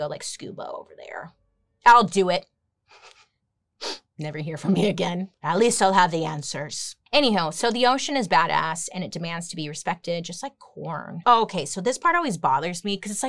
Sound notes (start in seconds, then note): 2.9 chuckles